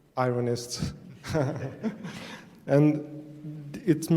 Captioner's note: laughing